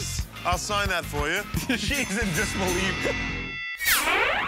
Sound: ding!

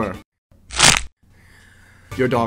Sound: snap

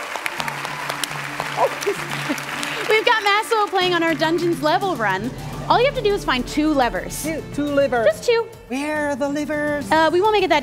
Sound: cheering

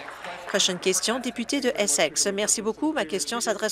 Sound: applause

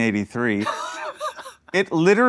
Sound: chuckling

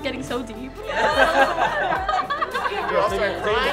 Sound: chuckles

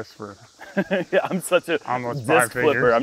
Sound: laughs

